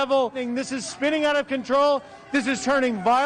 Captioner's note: screaming